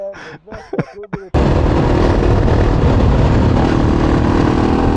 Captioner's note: motorcycle engine roaring